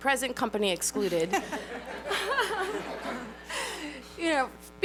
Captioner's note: laughter